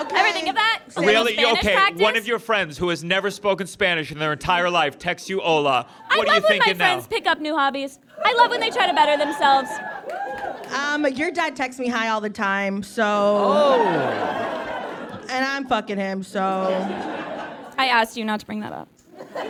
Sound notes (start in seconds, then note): 8.9 scattered whoops; 13.5 audience laughs